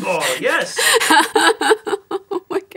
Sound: laughing

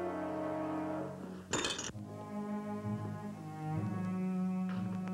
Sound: glass shattering; gloomy music

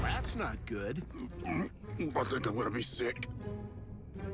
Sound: gagging

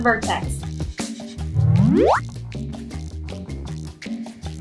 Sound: air swooshing

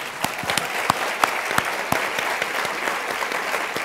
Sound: students applauding

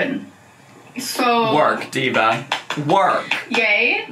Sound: clapping

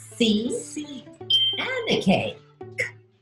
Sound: computer Voice

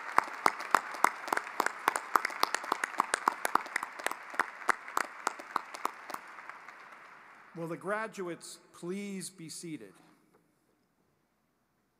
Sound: applause

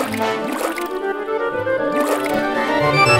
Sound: bubbling sound

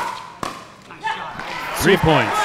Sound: ball bouncing; audience cheering

